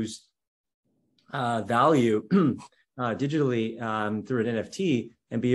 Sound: cough

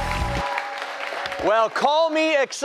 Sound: cheers and applause

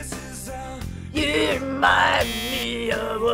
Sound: buzzer

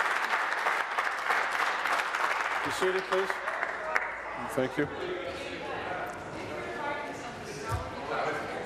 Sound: applause

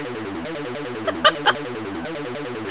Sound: music restarts; laughing

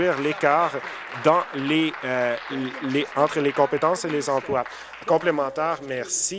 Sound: applause

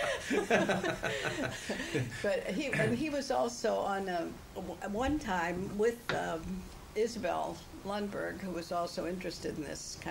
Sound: laughter

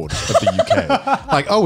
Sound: laughs

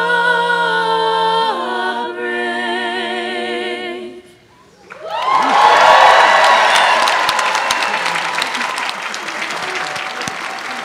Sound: applause

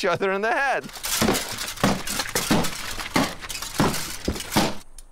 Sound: sword thumping

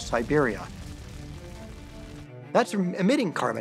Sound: fire crackling

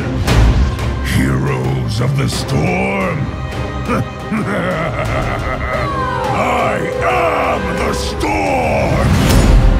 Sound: giggle

